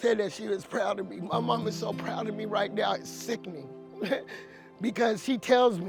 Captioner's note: laughs